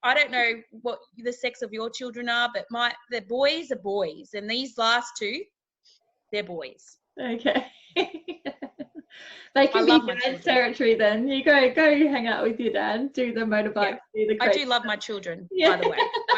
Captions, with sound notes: I don't know what the sex of your children are. But the boys are boys. And these last two, they're boys. - Okay. (laughs) They can be dad's territory then. You go, go hang out with your dad, do the motorbikes, do the crazy stuff. - I do love my children, by the way.